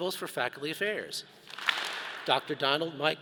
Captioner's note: all clap